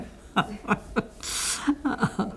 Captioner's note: laughter